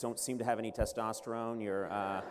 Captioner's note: laughter